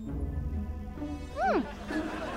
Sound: humming

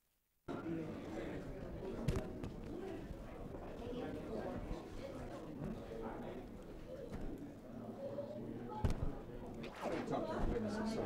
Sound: crowd noise

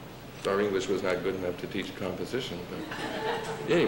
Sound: laughter

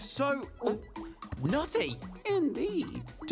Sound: gulps

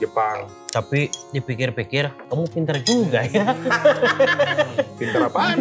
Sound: laughs

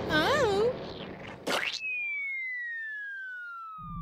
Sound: spitting; projectile whistling

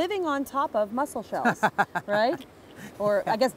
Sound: laughs

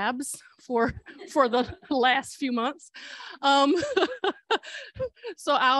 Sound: laughter

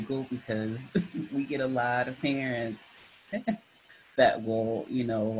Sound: giggles

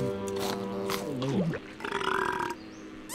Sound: belching

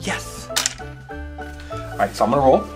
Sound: toy clicks

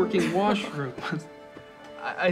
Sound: they both laugh

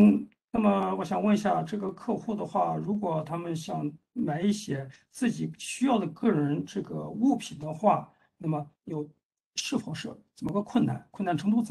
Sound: speaks in Mandarin

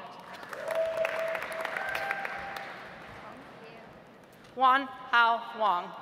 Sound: audience applauds

